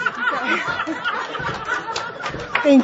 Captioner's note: laughter and audience applause